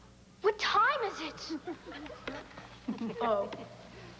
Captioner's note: giggling